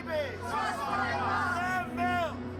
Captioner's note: crowd